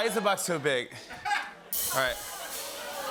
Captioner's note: laughs; audience ohhs